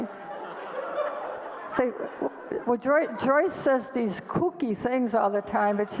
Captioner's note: audience laughter